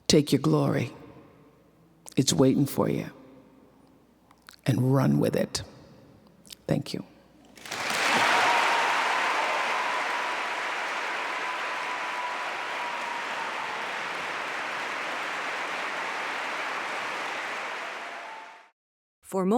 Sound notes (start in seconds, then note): 8.7 applause and cheering